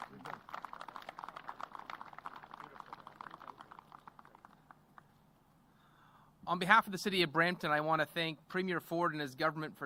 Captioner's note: applause